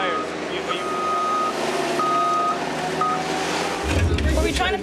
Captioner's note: Bobcat beeping